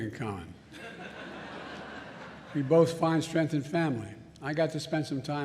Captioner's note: laughter